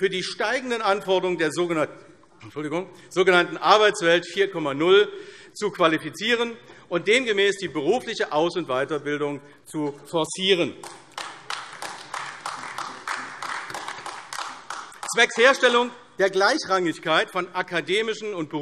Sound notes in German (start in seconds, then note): 10.8 Beifall AfD